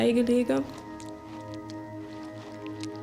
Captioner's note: wet rustling